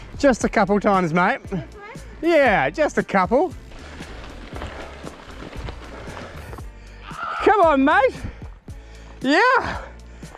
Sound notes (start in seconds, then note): 7.3 groans